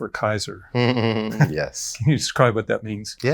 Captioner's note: chuckles